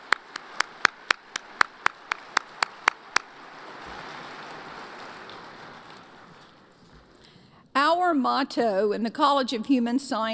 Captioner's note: applause